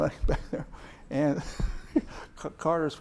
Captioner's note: laughs